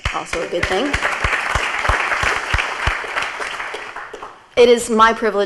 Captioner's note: audience applauds